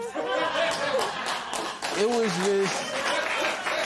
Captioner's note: laughter and applause